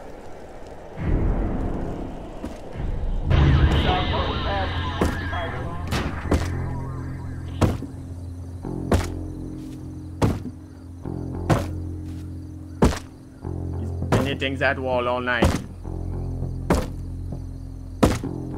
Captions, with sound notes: [Radio interference] [Rhythmic hammering] He's been hitting that wall all night.